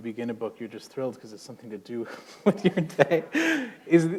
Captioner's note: chuckle